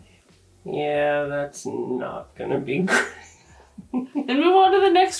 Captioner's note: laughs